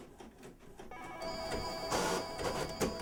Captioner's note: telephone chiming